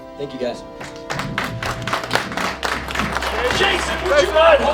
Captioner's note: audience claps